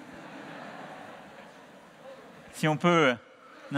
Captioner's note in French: Rires